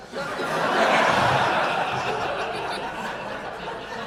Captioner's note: audience laughing